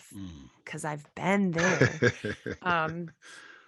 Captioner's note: chuckling